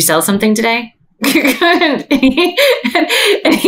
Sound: laughs

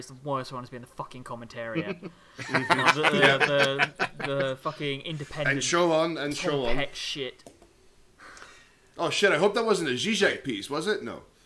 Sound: Zizek voice

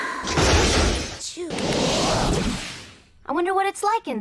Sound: sigh; weird vortex sound effect that I guess could work for a Poké Ball return lol; explosion

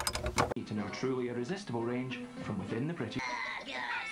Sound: television sounds

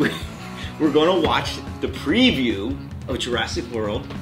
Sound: laughing

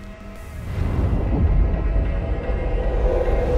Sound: air whooshing; deep ominous music

